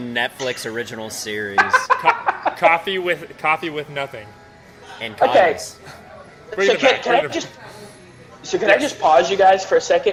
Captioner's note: laughter